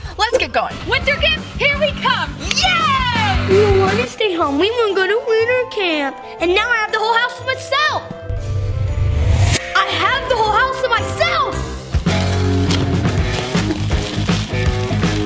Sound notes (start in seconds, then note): 2.4 cheering; 12.0 upbeat rock music